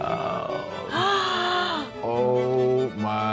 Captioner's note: gasps